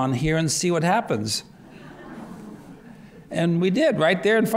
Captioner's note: laughter